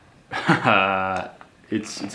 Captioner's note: laughing